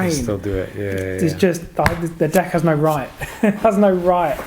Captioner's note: laughing